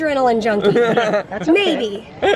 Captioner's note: chuckling